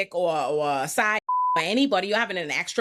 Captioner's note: beep